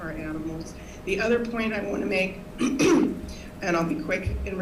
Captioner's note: clears throat